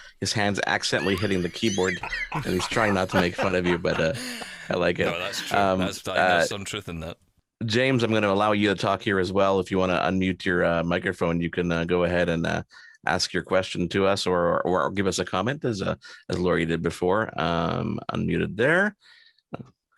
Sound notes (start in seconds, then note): 2.2 laughs